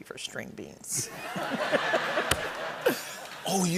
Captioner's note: laughter